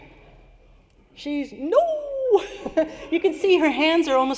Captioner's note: laughter